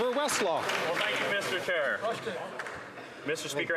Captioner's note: some Applause